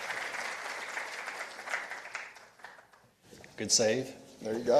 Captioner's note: participants applauding